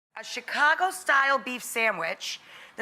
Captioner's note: none